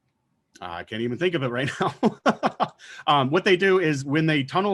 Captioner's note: laughing